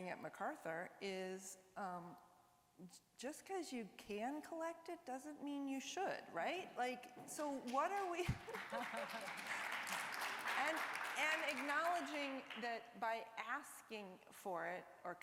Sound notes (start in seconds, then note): 7.6 applause